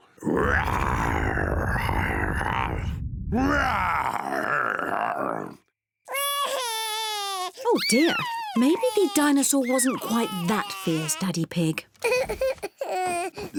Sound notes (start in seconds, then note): 0.0 daddy pig growls like a dinosaur; 3.3 continues to growl; 6.1 sobs